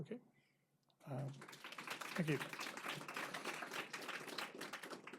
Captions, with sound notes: Okay. (applause) Thank you.